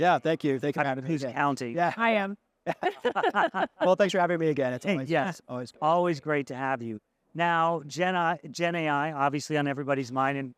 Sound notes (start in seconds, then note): 2.7 laughing